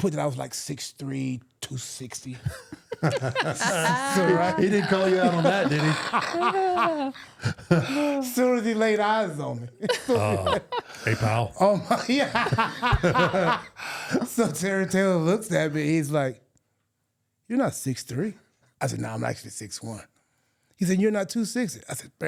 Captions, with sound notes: I put that I was like 6'3", 260. (chuckling) He didn't call you out on that, did he? (laughing) Soon as he laid eyes on me. Uh, hey pal. Yeah! Ha, ha, ha! So Terry Taylor looks at me, he's like... You're not 6'3". I said, nah, I'm actually 6'1". And he said, you're not 260.